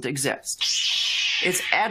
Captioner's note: air squealing